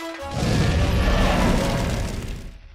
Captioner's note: roars